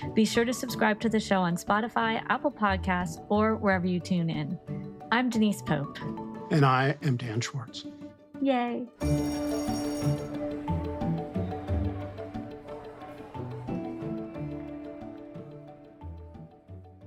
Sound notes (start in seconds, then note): 9.0 bell ringing; 10.4 background chattering